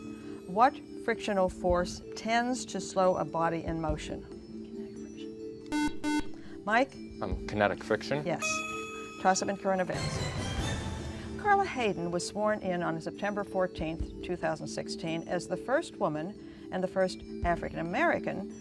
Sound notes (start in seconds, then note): 5.7 beep